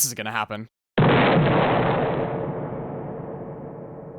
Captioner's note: Deltarune explosion sound effect